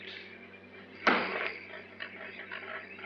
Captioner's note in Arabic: ضربة فأس على الشجرة